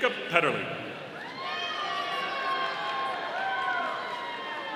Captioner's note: audience cheering